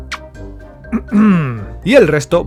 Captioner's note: uneasy cough